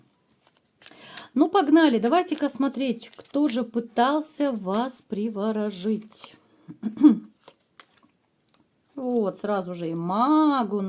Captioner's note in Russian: откашливается